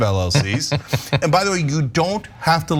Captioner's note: laugh